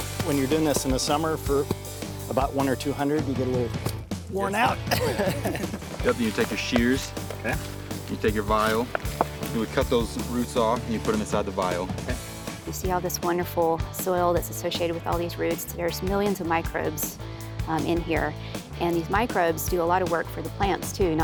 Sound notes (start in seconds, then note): 4.8 laughs